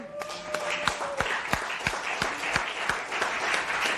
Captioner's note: applause